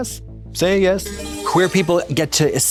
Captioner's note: bright chime